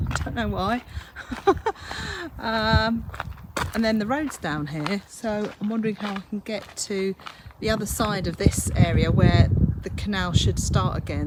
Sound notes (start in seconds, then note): 1.1 laughs